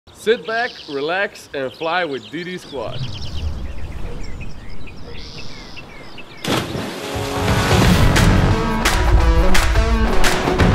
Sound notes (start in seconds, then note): 6.4 splash; 7.0 intro music playing